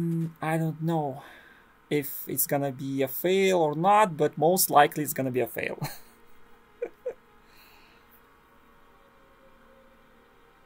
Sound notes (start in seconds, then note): 6.8 laughs hopelessly